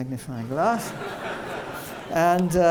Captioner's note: laughter